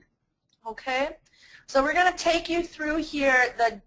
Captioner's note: voiceover